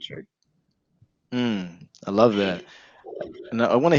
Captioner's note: Marco exclaims